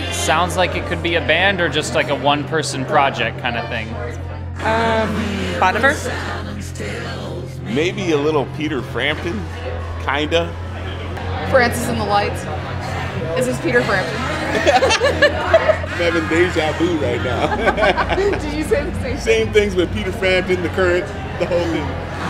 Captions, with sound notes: - Sounds like it could be a band or just, like, a one-person project kind of thing. - Um...Bon Iver? - Maybe a little Peter Frampton. Kind of? - Francis and the Lights. Is this Peter Frampton? [both laugh] - I'm having déjà vu right now. [laughs] - Did you say the same thing? - Same things, with Peter Frampton, The Current. The whole thing.